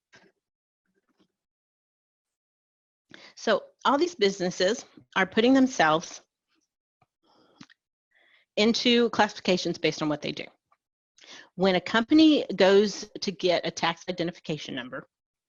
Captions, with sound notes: [pause] So all these businesses are putting themselves... [pause] ...into classifications based on what they do. When a company goes to get a tax identification number,